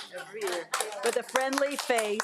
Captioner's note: audience applauding